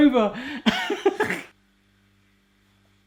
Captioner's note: laughs